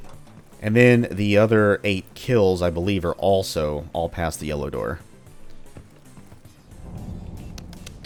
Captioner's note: thinking sounds